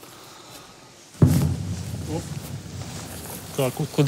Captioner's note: explosion sound